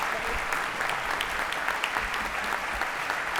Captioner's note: applause